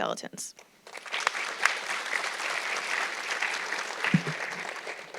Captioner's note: audience clapping